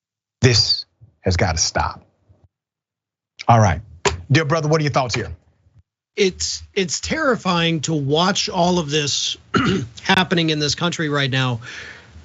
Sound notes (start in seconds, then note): 9.5 cough